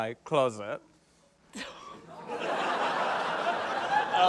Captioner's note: laughter